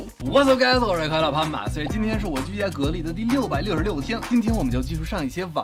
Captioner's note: speaking in Mandarin